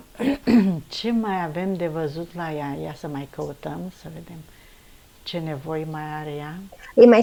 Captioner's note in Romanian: voce dreasă